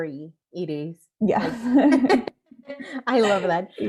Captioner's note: laughs